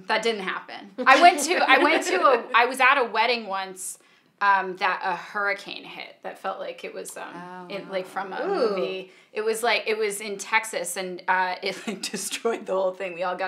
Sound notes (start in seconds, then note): 1.0 both laughing; 10.4 laughing